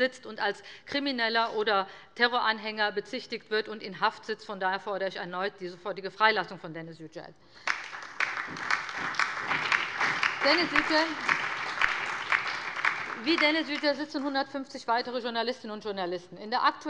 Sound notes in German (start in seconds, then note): 7.6 Allgemeiner Beifall